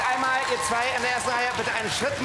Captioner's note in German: Applaus